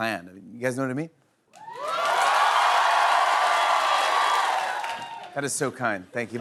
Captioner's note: cheers and applause